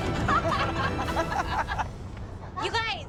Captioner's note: all laugh